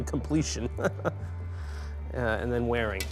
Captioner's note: chuckles